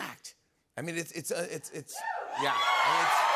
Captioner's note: cheers and applause